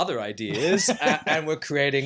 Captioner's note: laughs